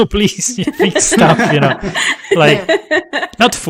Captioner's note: laughter